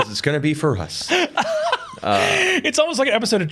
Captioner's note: laughs